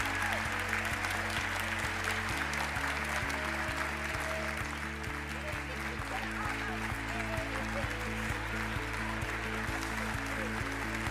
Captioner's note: applause